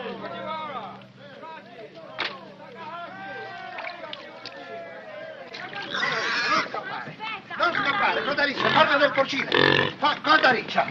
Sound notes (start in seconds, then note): 5.8 squeals; 6.8 shouting in italian